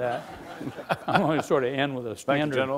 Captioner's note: laughing